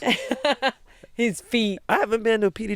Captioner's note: laughs